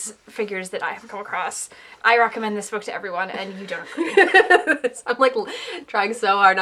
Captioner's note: laughter